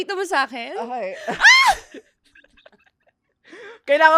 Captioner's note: screams; laughs